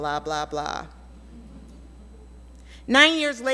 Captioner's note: audience laughs